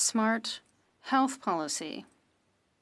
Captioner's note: speaking French